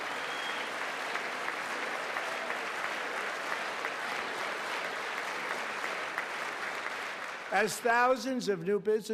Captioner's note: applause